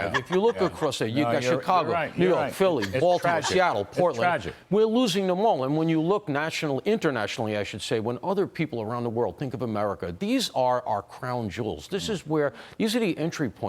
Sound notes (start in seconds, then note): 2.7 laughter